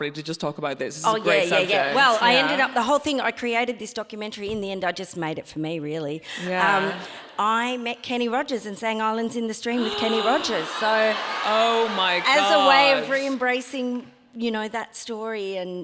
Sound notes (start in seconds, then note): 6.3 audience laughs; 9.7 audience laughs; 10.8 gasps